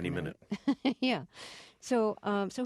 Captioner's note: soundbite of laughter